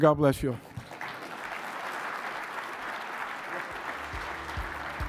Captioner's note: audience applauding